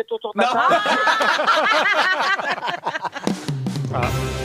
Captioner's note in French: rires